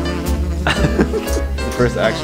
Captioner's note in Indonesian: tertawa